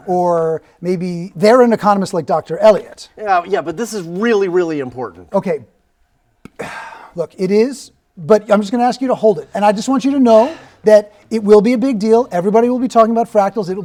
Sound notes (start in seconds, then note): 6.5 sighs